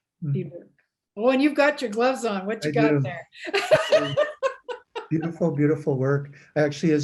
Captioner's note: laughs